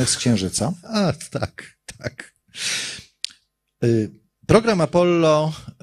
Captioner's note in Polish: śmiech